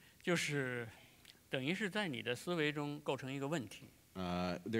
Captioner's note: speaking in Chinese